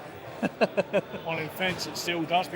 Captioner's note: laughing